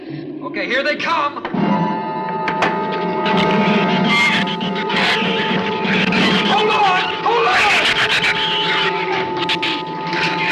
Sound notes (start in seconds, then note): 1.4 tense orchestral music; 1.5 shrews chatter; 7.6 shrews screech